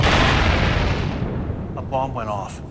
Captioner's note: bomb explodes